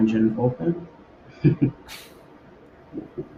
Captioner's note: laughs